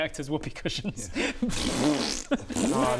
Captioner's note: pftth; pffttt